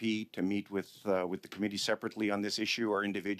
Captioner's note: speaking French